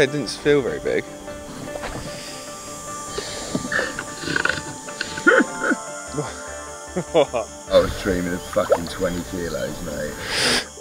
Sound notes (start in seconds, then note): 6.9 chuckling